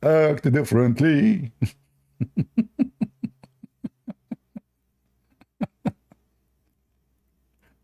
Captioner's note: Ketawa